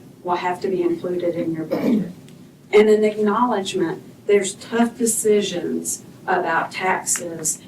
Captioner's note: clears throat